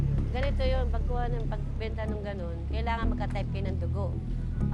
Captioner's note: speaks in foreign language